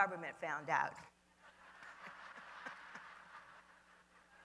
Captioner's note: laughter